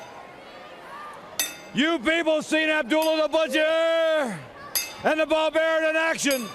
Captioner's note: bell ringing